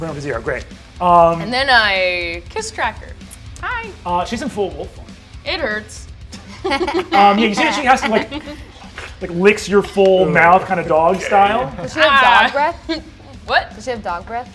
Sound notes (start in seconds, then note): 6.3 laughter